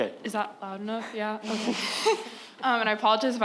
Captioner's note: questioner chuckles